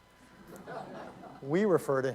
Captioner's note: laughter